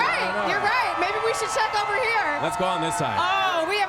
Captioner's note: cheering